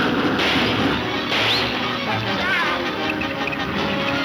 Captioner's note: whistles